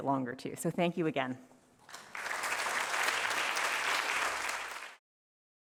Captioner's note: applause